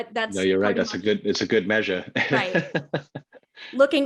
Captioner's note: laughs